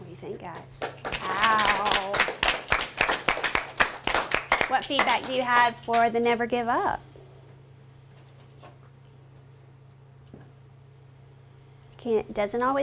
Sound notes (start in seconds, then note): 0.8 applause; 7.6 silence